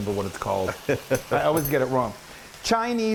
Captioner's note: laugh